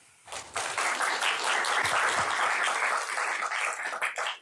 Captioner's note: applause